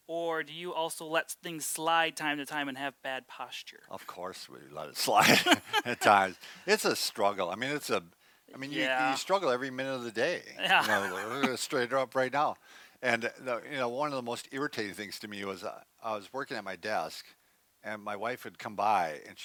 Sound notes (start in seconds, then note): 5.2 both laughs; 10.7 laughs